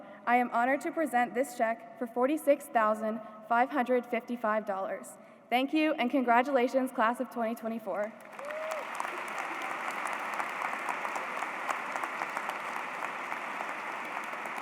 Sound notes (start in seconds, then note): 8.0 applause